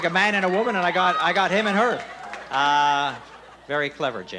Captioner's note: laughing